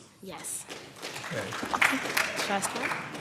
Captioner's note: applause